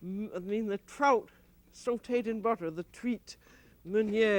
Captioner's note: speaking french